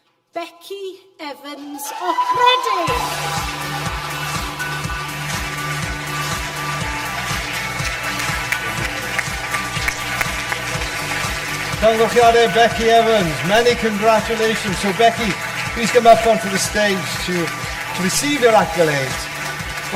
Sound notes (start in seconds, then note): 3.9 audience applause; 3.9 upbeat music